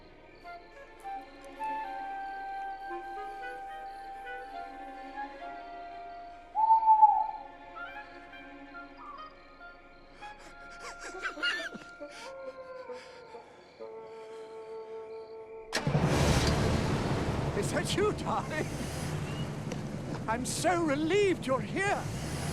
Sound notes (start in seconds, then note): 6.0 owl hooting; 10.2 chuckling; 12.2 howling; 15.7 car starting